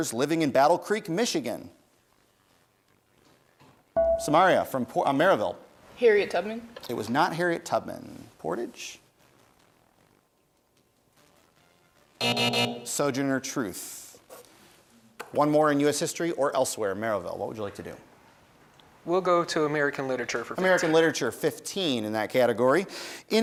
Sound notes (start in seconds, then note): 4.0 bell rings; 12.2 buzzer sounds